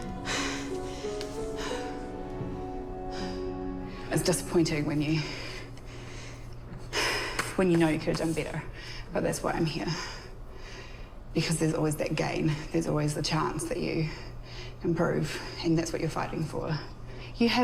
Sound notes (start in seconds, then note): 5.1 exhales